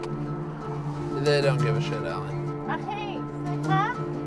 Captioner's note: speaking foreign language